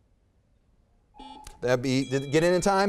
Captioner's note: timer buzzes; buzzer beeps; timer dings